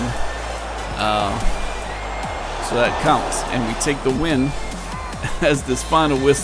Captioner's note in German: Beifall